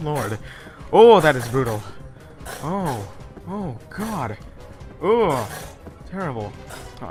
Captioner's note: various disgust sounds